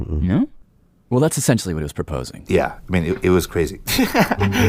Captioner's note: laughs